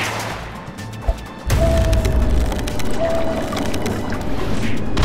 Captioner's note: muffled screaming